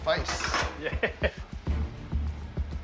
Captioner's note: chuckles